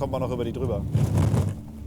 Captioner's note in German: Rumpeln